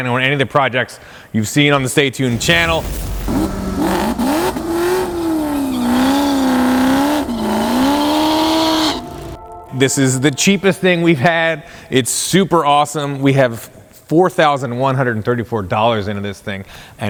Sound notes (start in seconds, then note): 2.4 engine revving loudly; 2.6 air whooshing loudly